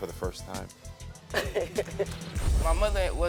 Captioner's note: laughing